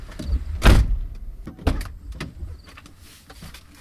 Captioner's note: door slamming